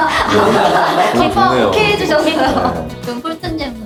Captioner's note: laugh